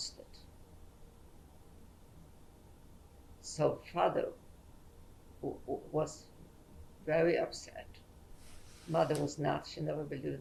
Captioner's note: pauses for 3 seconds